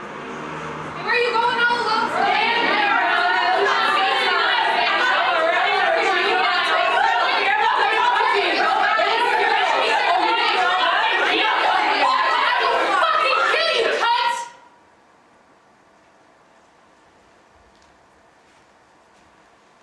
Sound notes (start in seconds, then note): 3.0 catcalling; 9.8 shouting threats